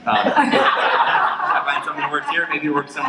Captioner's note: laughter